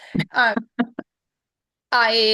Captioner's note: laughs